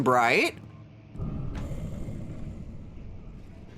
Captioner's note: dull boom and hiss